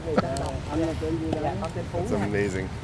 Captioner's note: laughing; speaks in foreign language